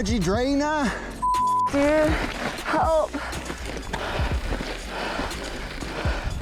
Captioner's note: beep